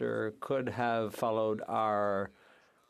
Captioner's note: speaking French